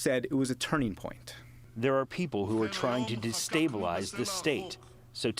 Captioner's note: through translator